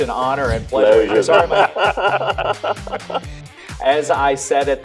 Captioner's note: both laughing